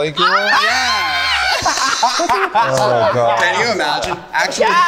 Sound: group laughing

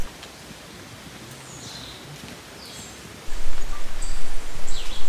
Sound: birds tweeting

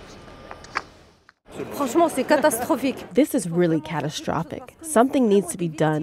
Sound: through translator

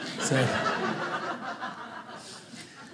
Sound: audience laughing

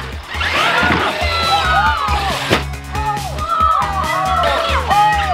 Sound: excited shouting

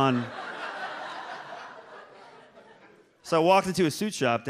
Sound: audience laughs

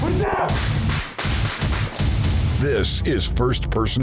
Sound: gunshots

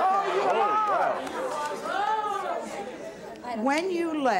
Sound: audience clamors

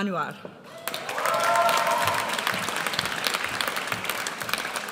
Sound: audience cheers

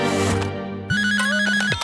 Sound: ringing

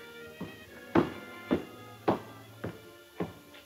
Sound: footsteps

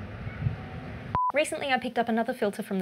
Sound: beep

